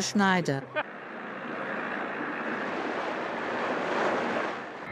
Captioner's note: water rushing